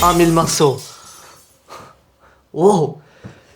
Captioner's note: glass explosion